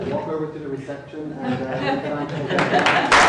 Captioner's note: laughter and applause